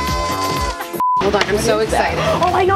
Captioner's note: high pitched beep